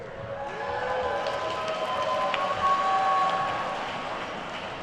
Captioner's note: attendees cheer and clap